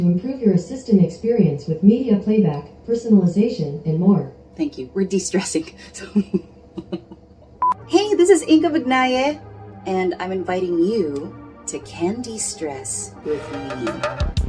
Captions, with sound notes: Thank you, we’re destressing, so...(laughs) Hey, this is Inka Magnaye and I'm inviting you to Cande-stress with me.